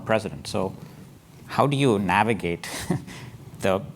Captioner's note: laugh